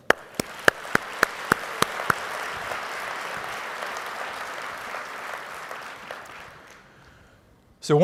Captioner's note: applause